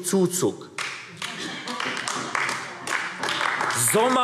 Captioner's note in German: Beifall AfD